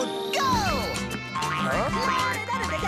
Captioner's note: grunting